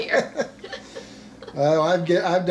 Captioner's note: everyone laughing